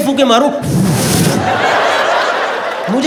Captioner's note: Imitating someone blowing air